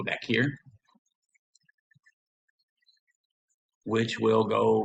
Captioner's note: silence